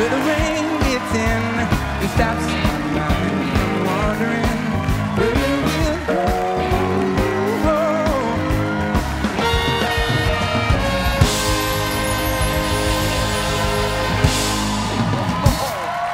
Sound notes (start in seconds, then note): 1.0 cheers and applause